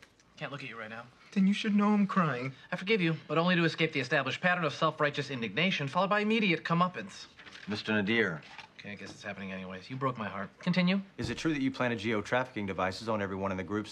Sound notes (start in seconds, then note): 8.7 quietly